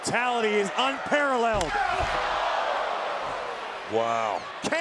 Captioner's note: crowd groaning